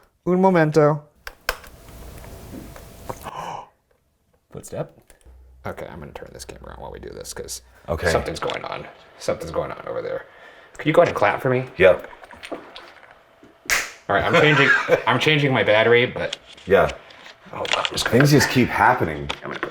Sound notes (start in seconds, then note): 3.0 footstep thuds; 3.3 gasps; 13.6 claps